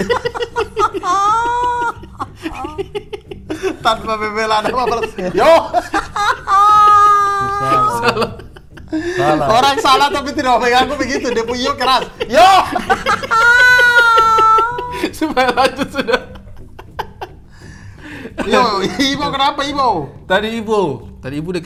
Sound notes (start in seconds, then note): 0.1 giggling; 13.4 laughing